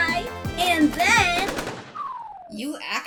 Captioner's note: gunshots